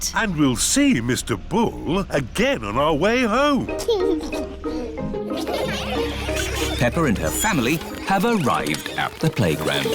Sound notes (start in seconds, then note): 3.7 giggles; 5.3 laughter